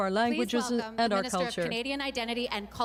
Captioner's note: speaking French